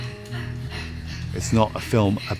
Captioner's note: panting